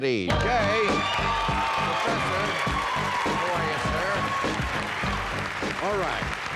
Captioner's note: audience cheering and applauding